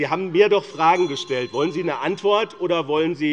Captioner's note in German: Unruhe - Glockenzeichen des Präsidenten